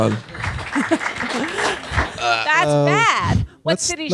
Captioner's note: audience applauding